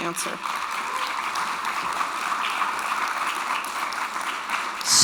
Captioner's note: attendees applauding